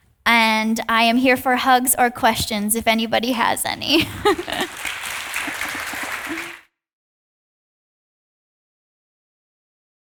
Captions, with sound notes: And I am here for hugs or questions if anybody has any. (audience applauding)